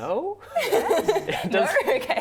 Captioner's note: laughing